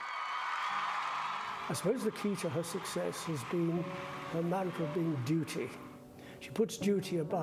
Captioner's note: crowd cheering